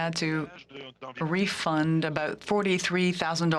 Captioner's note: speaking French